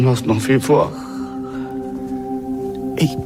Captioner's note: gasps